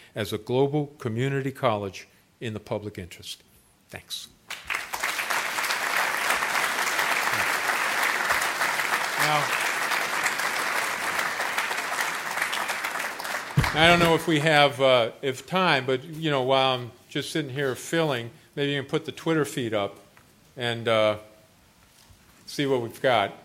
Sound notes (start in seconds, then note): 4.3 applause; 13.5 applause